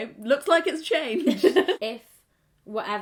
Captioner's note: laughs